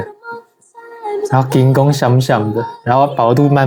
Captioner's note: Taiwanese